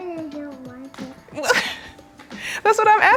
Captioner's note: laughing